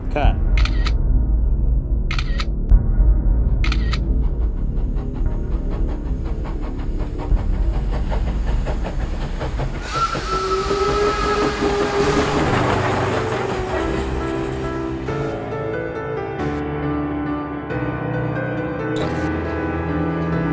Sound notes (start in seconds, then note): 2.1 camera snapping; 4.8 train chugging; 9.8 train whistling